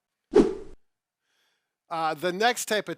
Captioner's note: air whooshing